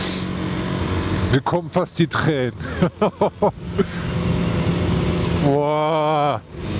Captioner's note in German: gelächter